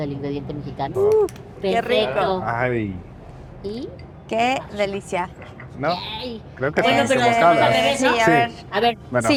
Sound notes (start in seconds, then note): 0.2 speaks Spanish; 6.0 speaks Spanish